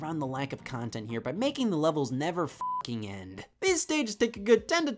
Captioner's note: beeps